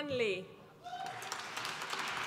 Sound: applause

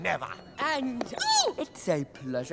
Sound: squeal

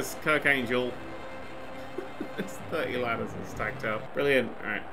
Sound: chuckle

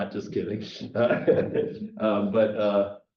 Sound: chuckle

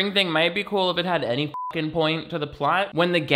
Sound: beep

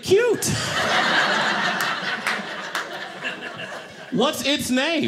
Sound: audience laughing

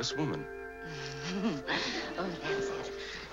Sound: laughs

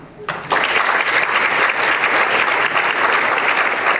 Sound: applause

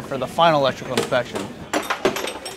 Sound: clanging

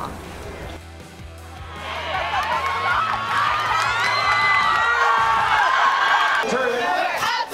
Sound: crowd cheering

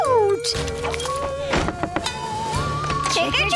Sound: knocking

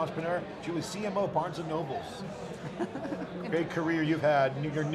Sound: laughs

